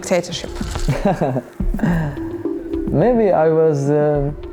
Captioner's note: laughs